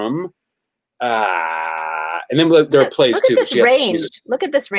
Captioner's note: groans